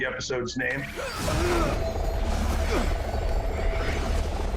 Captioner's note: groaning